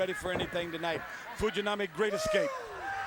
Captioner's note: audience cheering; Ric Flair shouting; Fujinami shouting